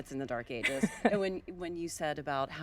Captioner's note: laughing